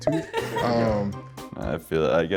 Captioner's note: contestants laugh